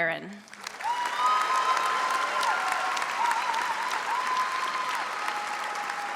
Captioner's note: audience cheers and applauds